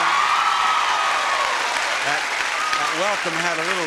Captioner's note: audience applauding